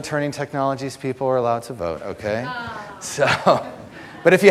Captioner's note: audience laughter